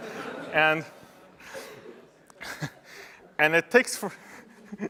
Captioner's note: laughter